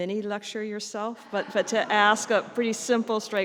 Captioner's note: audience laughs